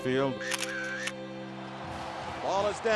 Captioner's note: camera clicks